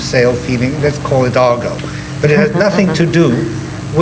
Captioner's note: chuckling